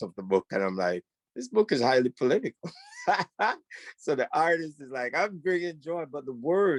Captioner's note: laughs